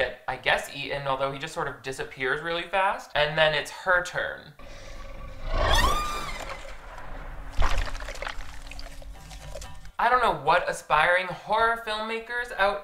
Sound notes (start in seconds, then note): 4.6 ghost shark growling; 5.7 woman screams; 7.3 blood splattering